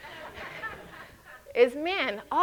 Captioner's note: audience chuckles